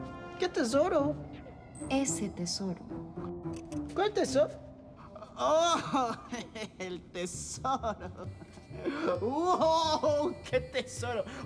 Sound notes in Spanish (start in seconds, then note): 5.0 riendo